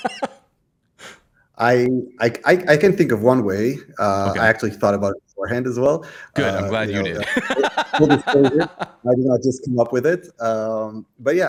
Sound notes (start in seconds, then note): 0.0 laughter; 6.9 laughter